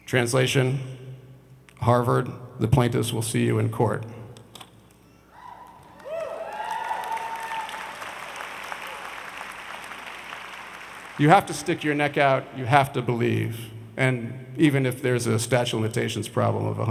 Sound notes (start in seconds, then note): 5.5 audience cheers and applauds